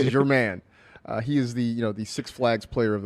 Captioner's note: laughs